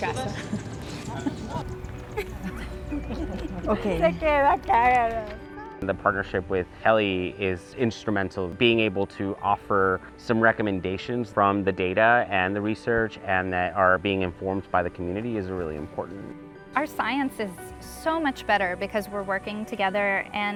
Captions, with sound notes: Mi casa. (women laughing) The partnership with Kelly is instrumental. Being able to offer some recommendations from the data and the research, and that are being informed by the community is really important. - Our science is so much better because we're working together,